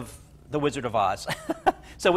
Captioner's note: laughs